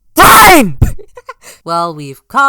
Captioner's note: sputters and snickers